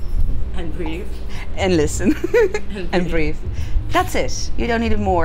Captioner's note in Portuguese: risos